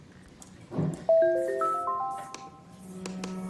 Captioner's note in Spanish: Alerta de mensaje